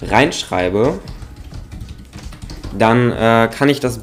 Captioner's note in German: Tastaturgeräusche